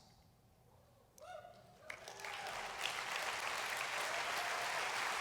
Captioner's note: applause